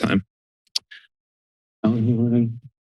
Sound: clicks tongue; silence

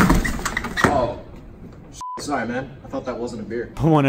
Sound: beep

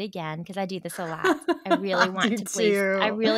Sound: laughing

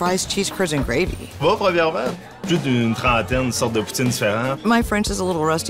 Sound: speaking in French

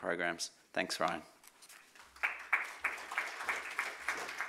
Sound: audience applauds

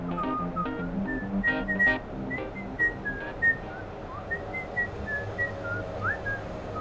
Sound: whistling

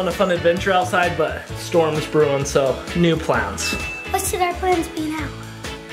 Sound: bells dings

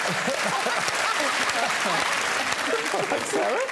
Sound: applause

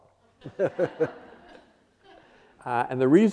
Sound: audience laughing

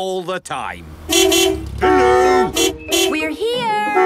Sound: beeping

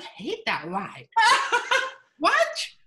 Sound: laughs

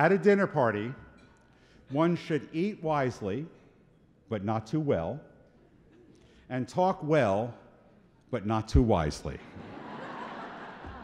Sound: laughter

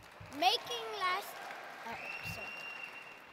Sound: cheers

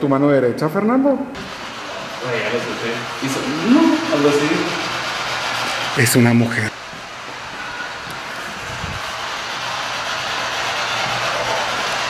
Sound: applause

